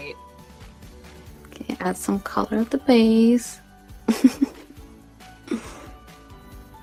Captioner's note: giggling